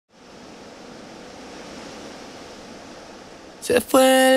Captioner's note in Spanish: corriente de agua